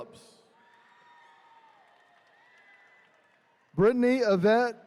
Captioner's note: attendees cheering